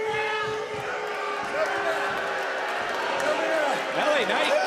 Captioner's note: crowd boos